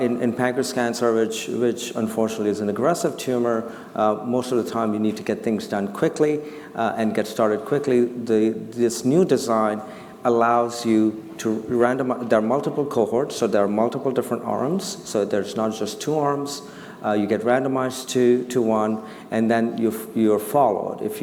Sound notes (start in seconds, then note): none